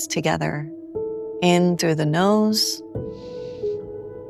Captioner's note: inhales